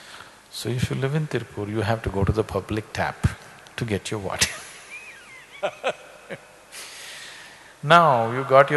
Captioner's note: laughs